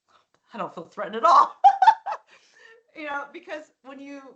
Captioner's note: laughing